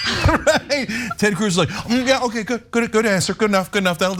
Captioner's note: laugh